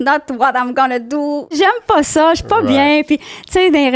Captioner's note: in french